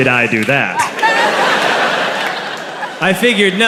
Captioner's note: crowd laughs